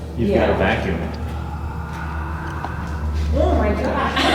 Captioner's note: creepy breathing sound